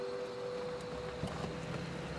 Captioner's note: crickets chirping; truck humming